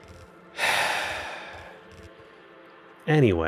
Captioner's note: sigh